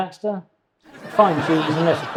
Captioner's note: audience laughs